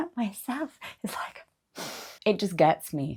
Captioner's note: sniffs